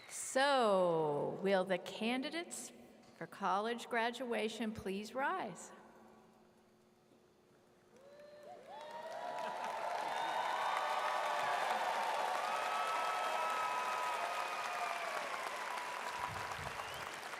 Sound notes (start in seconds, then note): 9.2 audience claps